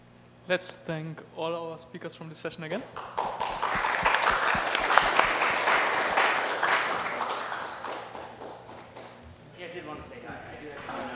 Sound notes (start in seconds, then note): 2.9 applause; 8.2 indistinct chatter